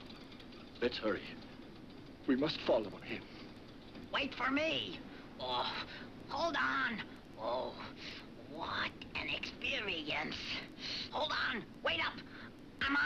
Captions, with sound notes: Let's hurry. We must follow on him. - Wait for me! (groans) Hold on! (groans) What an experience! Hold on, wait up! I'm on my way!